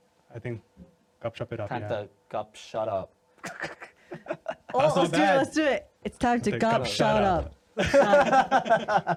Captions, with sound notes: I think "Gup Shop" it up, yeah. Time to "Gup Shut Up." (laughing) Oh, let's do it, let's do it. It's time to "Gup Shut Up." (laughing)